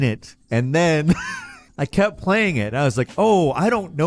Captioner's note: laughs